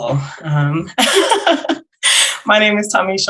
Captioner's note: panelists laughing